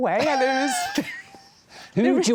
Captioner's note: laughing